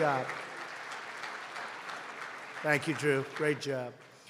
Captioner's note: applause